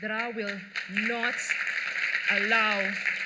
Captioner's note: applause